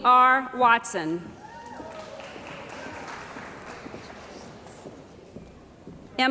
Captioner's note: cheering & Applause